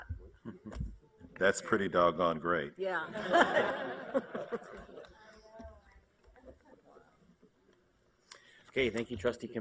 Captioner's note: laughter